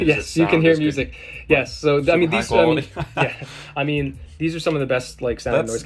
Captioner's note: chuckles